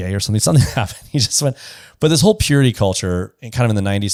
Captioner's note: laughs